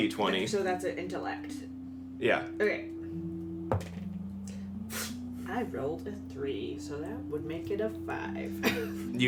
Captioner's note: rolls, sighs